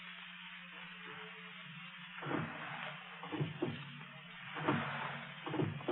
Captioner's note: thunder